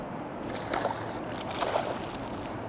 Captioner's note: splashing